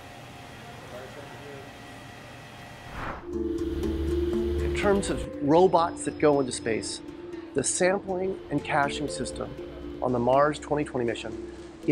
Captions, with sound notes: (air whooshes) (mysterious light music) - In terms of robots that go into space, the sampling and caching system on the Mars 2020 Mission